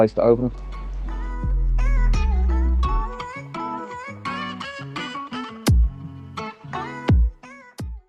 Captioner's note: wind blowing